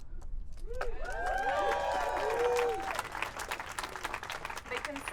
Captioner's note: audience cheering